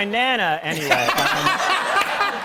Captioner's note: laughter